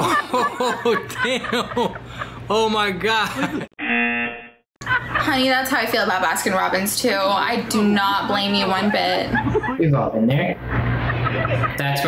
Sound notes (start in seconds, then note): 0.0 laughs; 3.8 buzzer rings